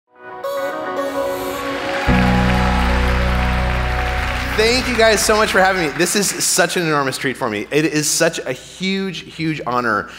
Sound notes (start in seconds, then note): 0.6 upbeat music; 3.1 audience applauding